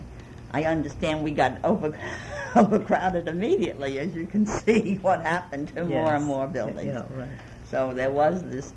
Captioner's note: laughs